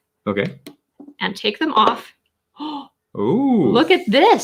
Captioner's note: gasping